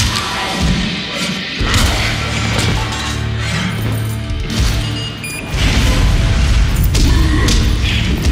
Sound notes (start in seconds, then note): 0.1 crunch; 4.8 beep